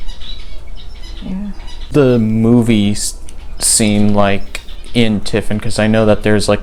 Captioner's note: birds in background